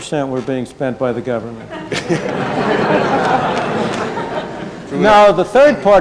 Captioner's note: laughter